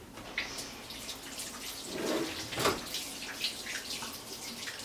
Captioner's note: running water